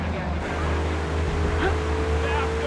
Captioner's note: car engine roaring